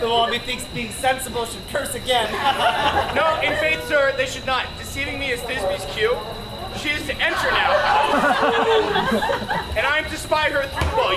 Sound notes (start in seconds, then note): 7.9 Flute shouts